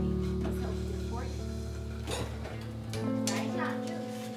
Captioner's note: tender acoustic guitar music; child speaking away from mic